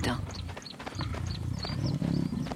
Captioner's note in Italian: cinguettii